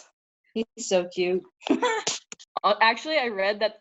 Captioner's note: laughs